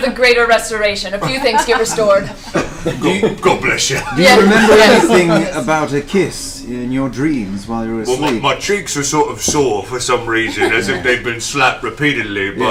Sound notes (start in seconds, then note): 1.1 laughs